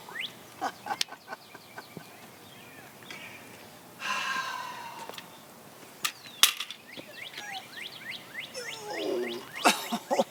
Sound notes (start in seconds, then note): 0.5 birds chirping; 0.8 laughing; 4.0 sighs; 5.8 birds chirping; 10.1 sighs